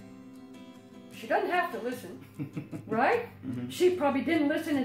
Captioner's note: giggles